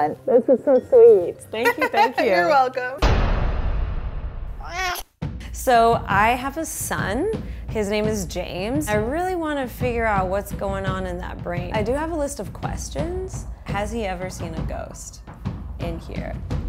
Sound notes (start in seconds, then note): 3.0 words thud; 4.5 dramatic music; 4.6 cat meows